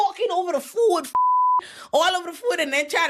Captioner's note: beep